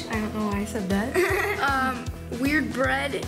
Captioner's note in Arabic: يضحك